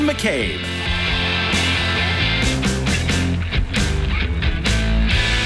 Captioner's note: audience applauding